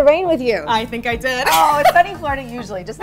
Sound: laughs

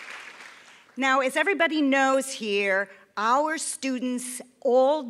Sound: applause

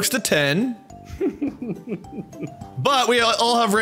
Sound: laughes

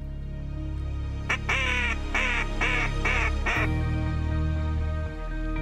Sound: duck calls

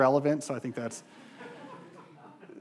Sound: audience laughing

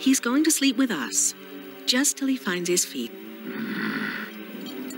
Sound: snarls

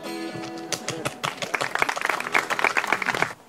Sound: applause

